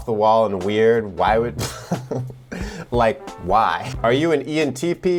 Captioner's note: chuckles